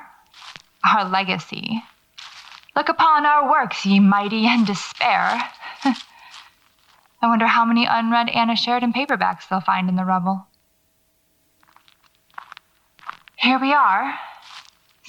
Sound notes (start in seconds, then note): 11.5 footsteps slow but continue